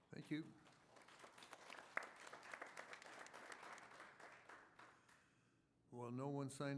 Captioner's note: applause